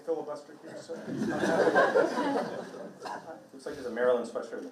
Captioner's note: participants laughing drowns out speaker